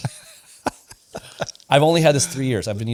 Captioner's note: laughs